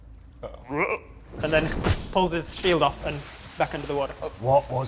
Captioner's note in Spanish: Croa